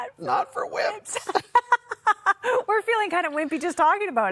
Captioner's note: giggling